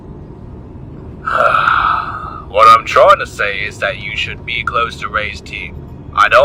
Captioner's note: groan